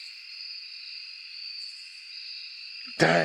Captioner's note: crickets